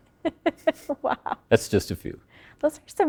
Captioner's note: interviewer laughing